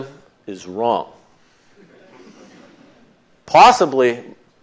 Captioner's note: laughter